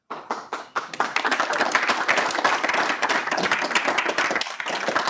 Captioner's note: audience applauding